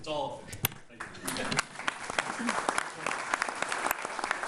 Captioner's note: all applauding